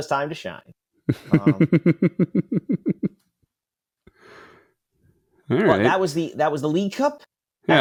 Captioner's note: laugh